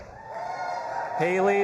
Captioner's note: audience applauding and cheering